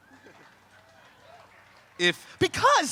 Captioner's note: crowd clapping and cheering